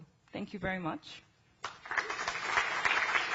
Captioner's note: clapping